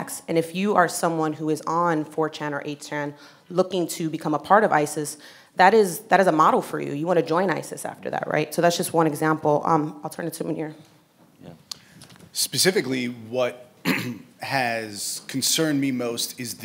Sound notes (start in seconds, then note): 13.8 clearing voice